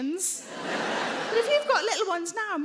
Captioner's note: audience laughing